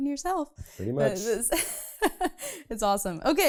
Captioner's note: laughs